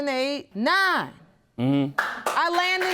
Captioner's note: audience applauding